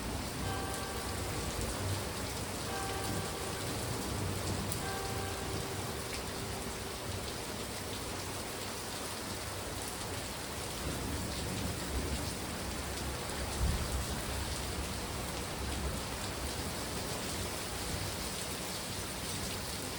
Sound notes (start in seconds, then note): 0.3 church clock strikes 3pm; 11.0 more thunder; 16.1 rainfall intensifies